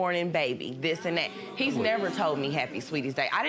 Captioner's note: audience murmurs